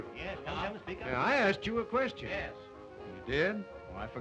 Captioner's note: men murmur interestedly